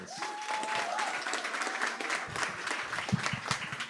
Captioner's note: cheering, applause